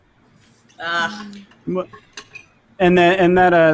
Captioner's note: groans